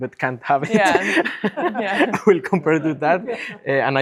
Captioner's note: laughs